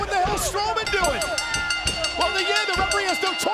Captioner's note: bell rings